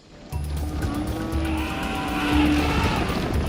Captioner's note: elephants trumpeting